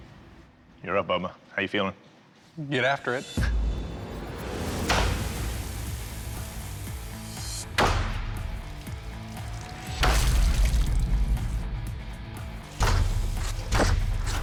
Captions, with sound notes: You're up, Bubba. How are you feeling? Get after it. [banging]